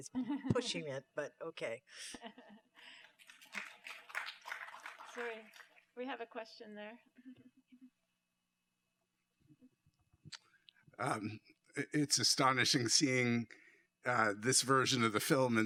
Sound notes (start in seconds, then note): 2.0 laughter; 2.9 applause